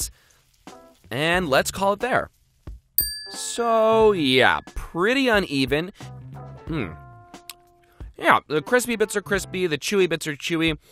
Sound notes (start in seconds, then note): 3.0 dings